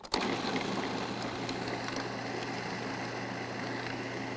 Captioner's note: food processor whirring